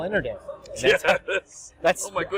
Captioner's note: laughs